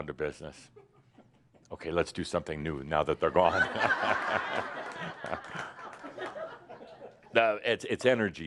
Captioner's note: laughter